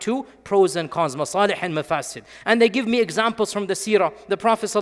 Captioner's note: speaking in Arabic